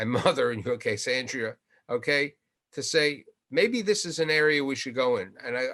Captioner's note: chuckles